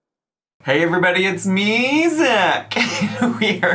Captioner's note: laughs